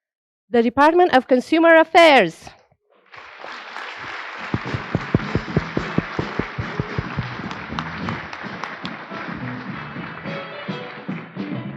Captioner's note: applause